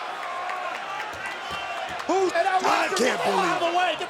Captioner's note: crowd cheering; overlapping chatter